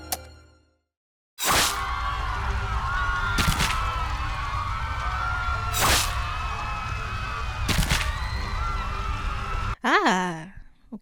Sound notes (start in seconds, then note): 1.4 general screaming, slicing, mayhem going on